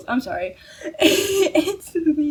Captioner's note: wheeze